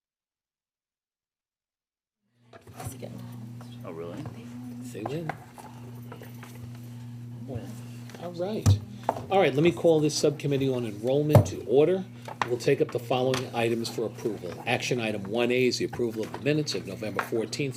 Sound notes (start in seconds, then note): 2.8 people talking to each other